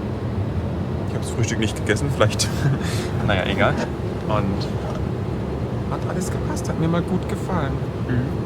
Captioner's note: laugh